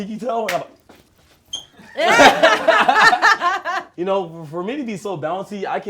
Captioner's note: laughs